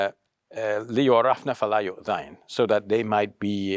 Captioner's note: speaking Arabic